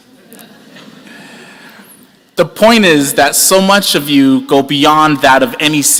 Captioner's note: laughter